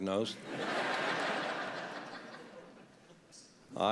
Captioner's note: laughter